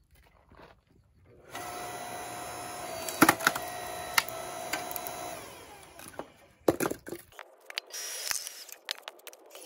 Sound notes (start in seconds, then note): 1.4 electric wood splitter sound